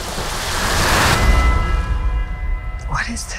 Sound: bell tolls

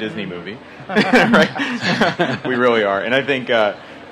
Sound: laughter

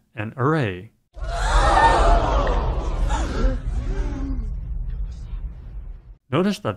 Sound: crowd gasping

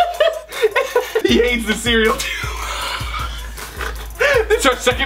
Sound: laughing; laughs

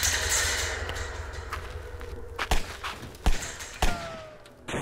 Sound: multiple pistol fires

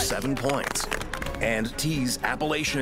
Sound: applause

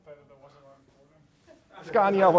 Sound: laughter

